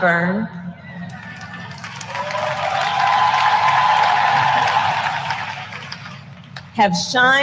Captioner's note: applause